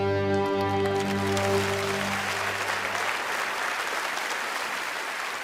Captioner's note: audience applauding